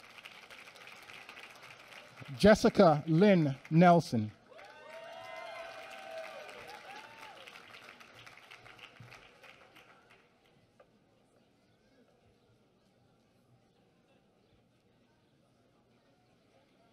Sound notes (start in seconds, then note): 4.0 applause